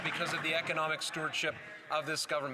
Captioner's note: some Applause